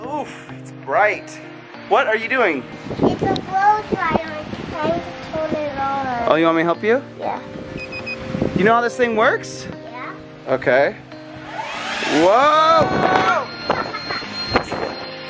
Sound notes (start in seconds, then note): 7.8 leaf blower beeps; 11.2 leaf blower whirring